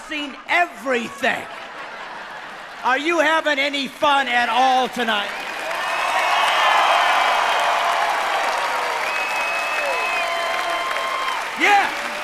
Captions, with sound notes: I had to come to Muncie, Indiana to find a crowd that's seen everything. Are you having any fun, at all tonight? [cheering]